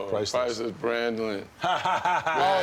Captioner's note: laughter